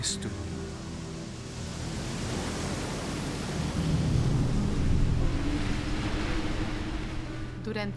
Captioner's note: agua cayendo